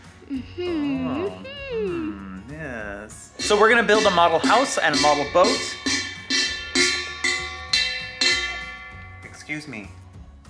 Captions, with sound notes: Um mm. - Aa, mm, yes. So we're going to build a model house and a model boat. (pot banging) Excuse me.